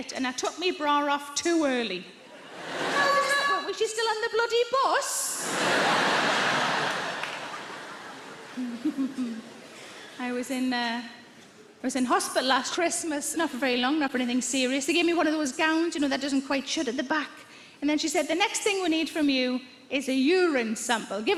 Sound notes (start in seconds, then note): 5.4 audience laughs